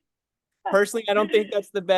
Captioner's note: laugh